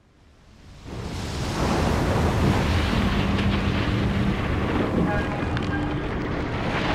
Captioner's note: waves crashing, wind blowing